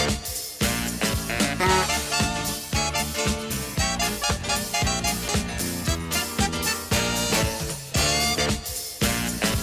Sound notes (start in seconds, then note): 2.0 car horn